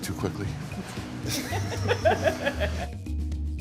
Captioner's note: laughing